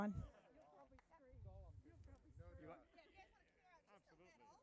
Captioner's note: crowd chattering